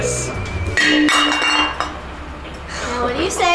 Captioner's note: bottle crashing